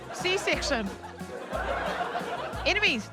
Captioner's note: audience laughs